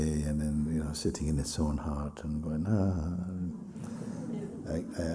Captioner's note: laughter